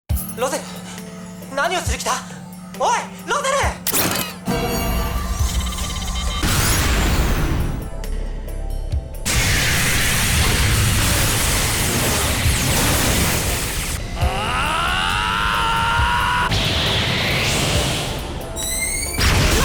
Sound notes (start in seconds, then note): 15.3 power up